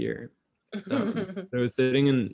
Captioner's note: laughs